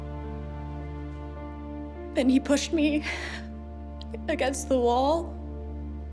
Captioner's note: voice breaking